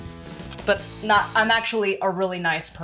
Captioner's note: regular voice